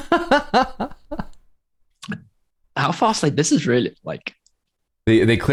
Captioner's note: laughter